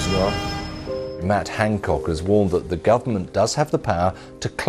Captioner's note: rolling news audio